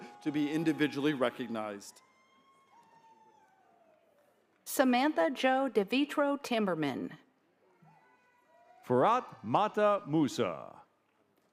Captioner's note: applause